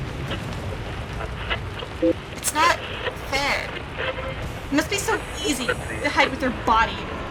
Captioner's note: beep, Static, Voice Decay, Radio Scanning